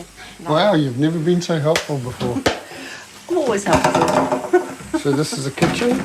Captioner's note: chuckles